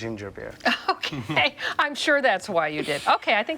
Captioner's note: laughs